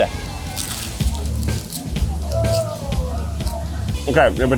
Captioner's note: potato crunching